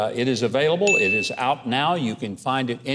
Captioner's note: ding